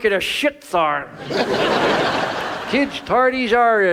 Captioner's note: audience laughs